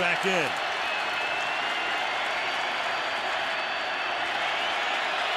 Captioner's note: crowd cheering